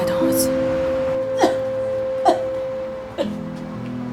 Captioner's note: cough, cough, cough